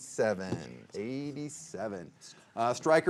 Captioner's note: players whispering